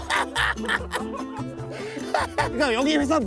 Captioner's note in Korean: 빵터짐